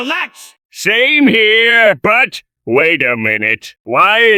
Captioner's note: Plankton Voice